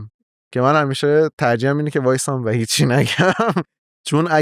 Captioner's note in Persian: خنده